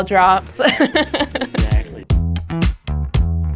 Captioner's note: laughing; upbeat music